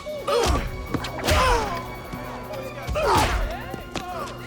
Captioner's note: Knox grunting